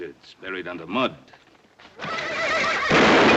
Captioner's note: horse whinnying